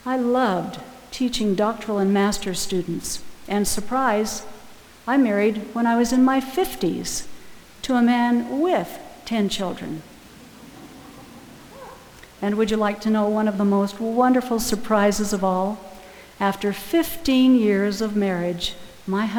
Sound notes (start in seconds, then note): 10.3 audience laughing